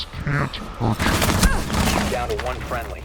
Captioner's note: gunfire